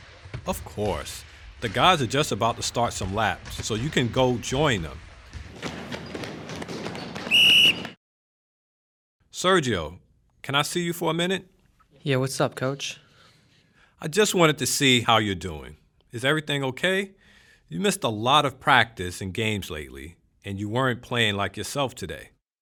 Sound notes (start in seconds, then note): 6.7 sounds of player's running on the court. Coach blows his whistle